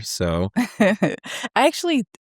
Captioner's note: laughing